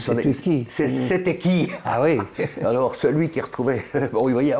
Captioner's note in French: Rire